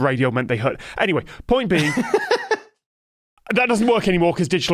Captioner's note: laughs